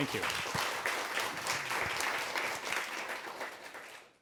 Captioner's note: applause